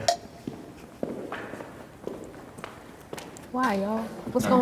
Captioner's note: feet clomping